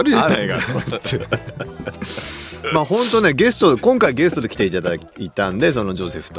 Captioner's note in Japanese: 笑い